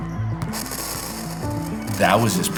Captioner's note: static fuzzing